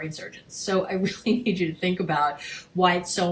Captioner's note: chuckling